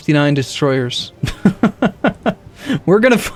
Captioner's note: laughs